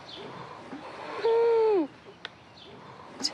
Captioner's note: wheezes